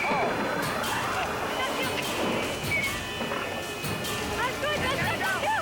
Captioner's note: crew yelling